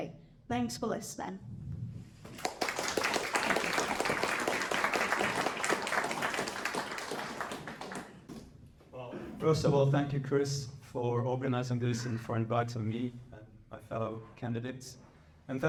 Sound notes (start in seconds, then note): 2.2 applause